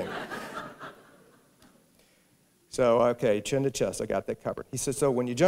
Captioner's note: laughter